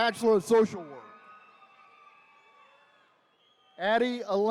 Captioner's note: attendees cheering